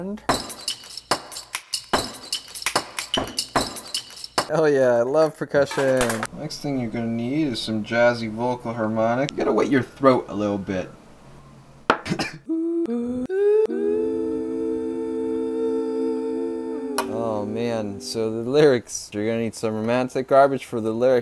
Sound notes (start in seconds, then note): 12.0 cough